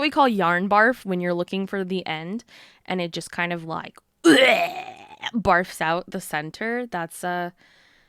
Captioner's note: wretching noise